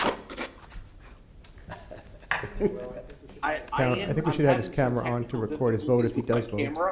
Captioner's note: laughter